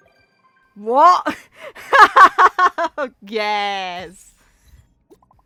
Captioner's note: laughs